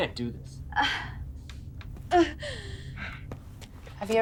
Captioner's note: Yvonne exclaims